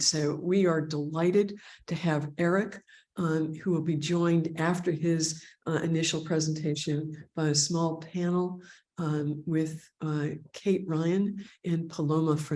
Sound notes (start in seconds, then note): none